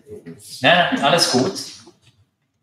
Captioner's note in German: lachen